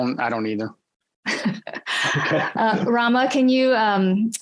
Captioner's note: laughs